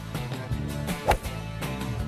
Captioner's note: golf swing